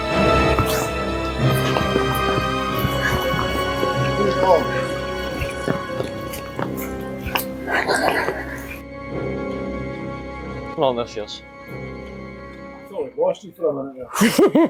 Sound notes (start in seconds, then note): 0.2 creepy Music; 5.8 unicorn gasping